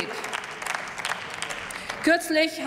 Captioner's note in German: Applaus